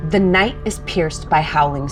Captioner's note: none